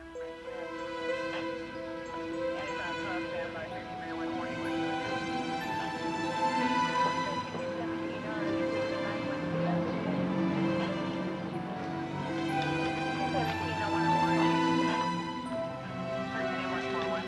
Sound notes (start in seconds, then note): 0.3 sinister music; 3.7 people chattering; 8.4 gentle music